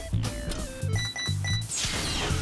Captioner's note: beeping